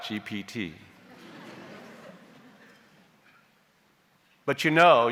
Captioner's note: audience chuckles